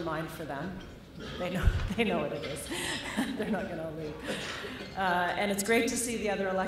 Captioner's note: laughter